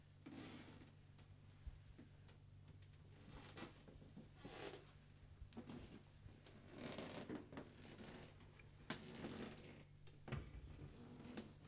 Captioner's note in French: planchers qui craquent fort